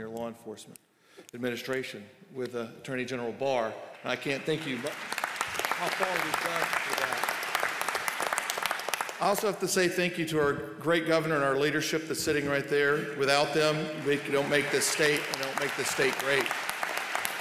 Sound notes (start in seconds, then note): 3.8 applause